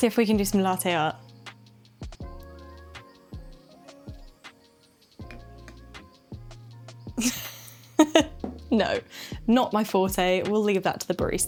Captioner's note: laughs